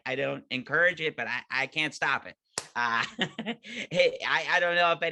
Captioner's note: laughing